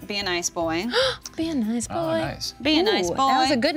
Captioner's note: gasping